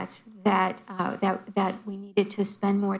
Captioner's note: none